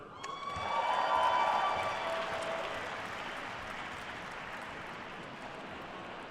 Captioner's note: attendees cheering and applauding